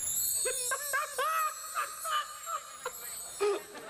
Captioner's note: laughing